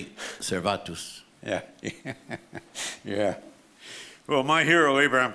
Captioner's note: laughs